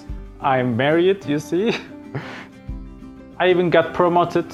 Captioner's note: chuckling